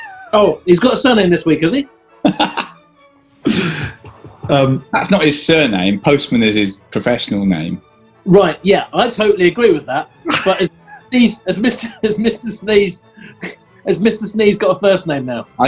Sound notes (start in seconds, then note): 3.4 laughing; 10.2 giggling